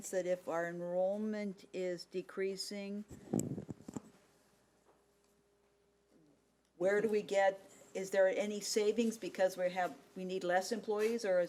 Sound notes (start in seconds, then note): none